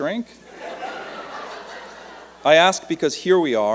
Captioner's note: laughter